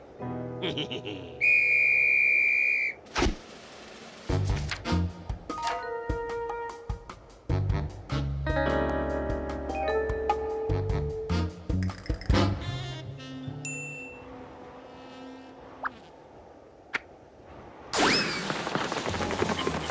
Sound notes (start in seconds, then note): 0.6 laughs; 1.4 whistle blows